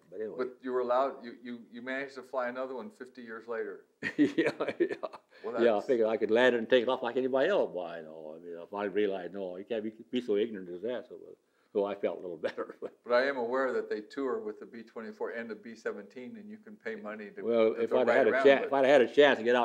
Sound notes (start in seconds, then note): 4.0 laughs